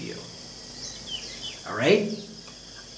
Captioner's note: birds chirping